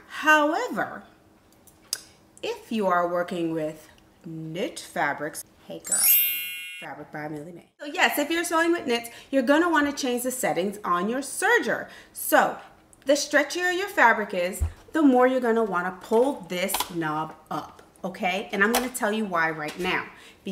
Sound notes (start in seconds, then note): 5.8 chime